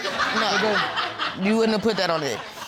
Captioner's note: audience laughing